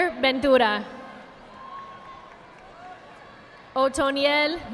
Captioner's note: audience applauding